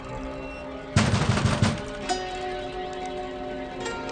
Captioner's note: pounding on door